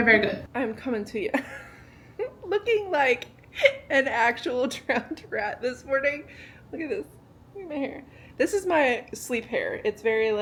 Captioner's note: laughing